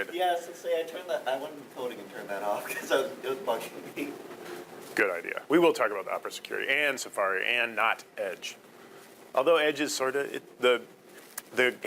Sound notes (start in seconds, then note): 2.5 laughing